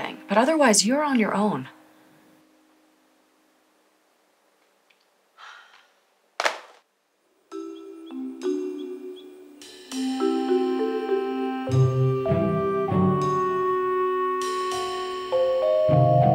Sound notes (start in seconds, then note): 5.3 sighing; 6.4 laptop snapping; 7.6 upbeat music